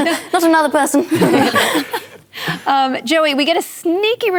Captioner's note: laughter